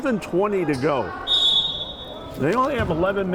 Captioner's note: whistle blowing